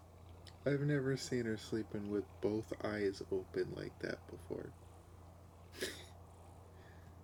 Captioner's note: laughs